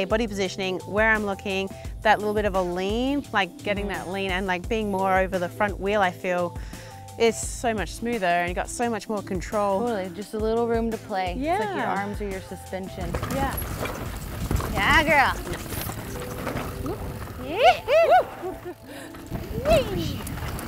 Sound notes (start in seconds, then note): 17.3 whooping